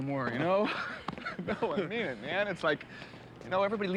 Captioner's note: both laugh